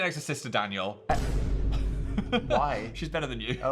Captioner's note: Phil laughs